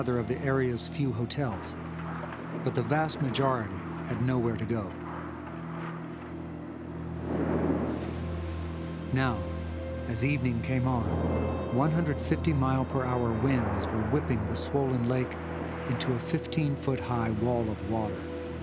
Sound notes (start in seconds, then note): 6.5 waves crashing